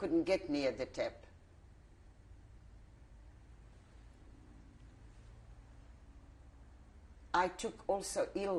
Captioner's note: pauses for 6 seconds